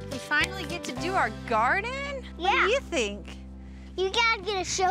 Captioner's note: none